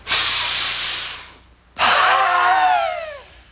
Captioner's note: breathing; screaming; breathing